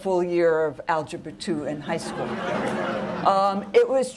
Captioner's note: laughter